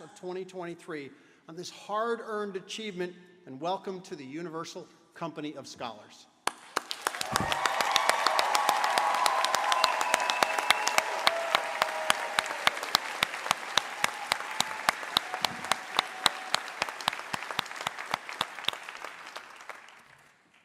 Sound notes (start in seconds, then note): 8.1 applause